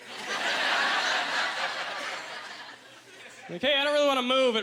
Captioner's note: audience laughter